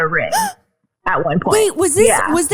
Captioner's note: gasps